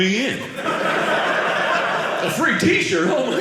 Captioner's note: audience laughing